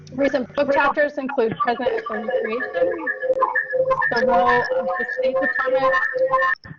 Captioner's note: connection interference screeching